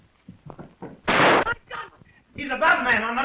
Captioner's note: gunshot